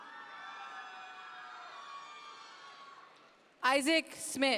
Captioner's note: audience members cheer